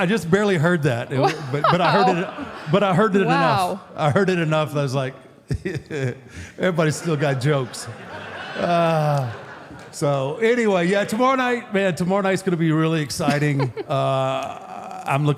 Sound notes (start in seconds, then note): 6.6 audience laughs; 7.0 laughs; 13.2 Michelle laughs